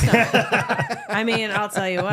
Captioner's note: laughing